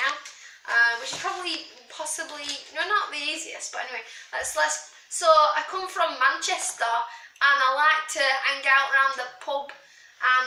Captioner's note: bad Manc accent